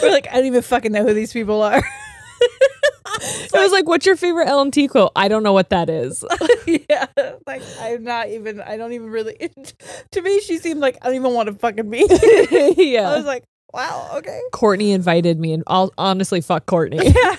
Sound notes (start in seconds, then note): 1.8 both laughing; 8.1 laughs; 12.0 both laughing